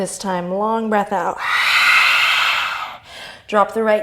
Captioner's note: inhale; fierce exhale